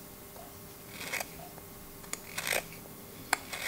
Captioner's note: carving sounds